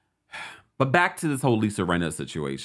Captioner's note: sighs